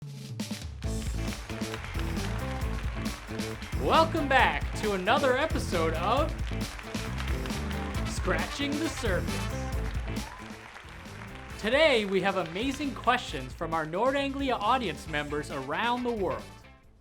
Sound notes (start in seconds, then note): 0.0 game show music; 6.4 crowd cheering